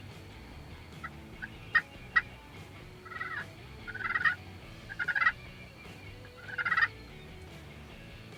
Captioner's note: turkey call noise